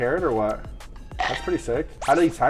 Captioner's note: carrot crunching